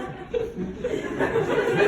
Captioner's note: comedian Laughs